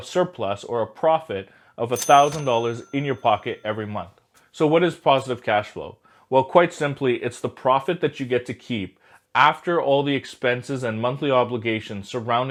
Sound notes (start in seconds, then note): 1.9 cha-ching